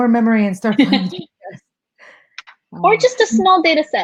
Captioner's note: laughing